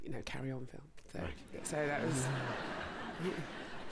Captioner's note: laughter